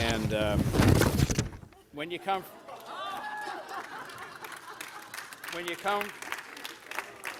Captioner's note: laughter